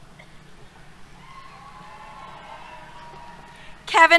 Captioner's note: cheers